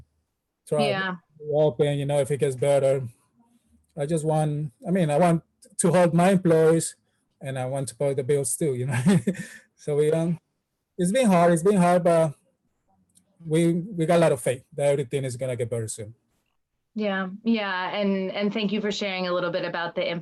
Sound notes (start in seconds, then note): 7.5 laughs